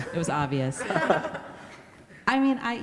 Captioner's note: everybody laughs